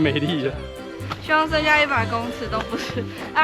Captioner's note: laughs